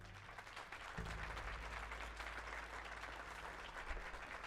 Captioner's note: audience applauding